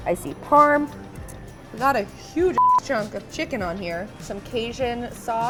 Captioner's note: beep